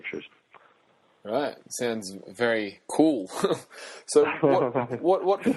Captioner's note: chuckles